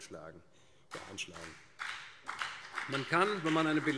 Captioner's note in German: Beifall BÜNDNIS 90/DIE GRÜNEN